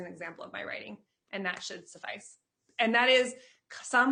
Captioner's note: claps